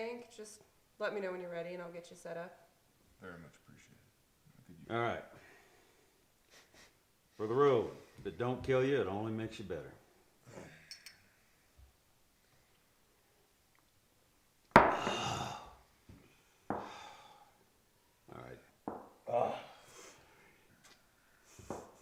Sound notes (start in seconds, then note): 6.5 Clayton chuckles; 11.0 glasses clink; 15.1 grunts; 19.2 Clayton groans